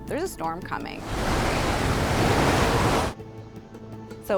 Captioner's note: wind gusting